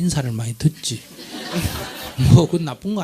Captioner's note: audience Laughter